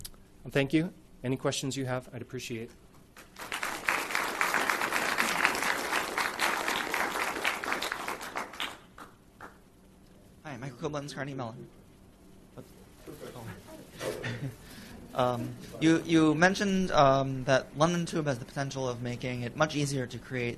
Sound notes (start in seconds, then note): 3.1 applause